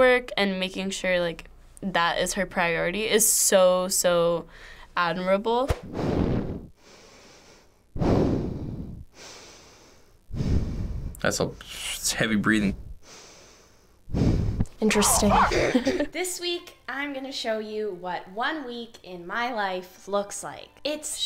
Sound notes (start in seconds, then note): 5.9 breathes heavily; 14.8 laughs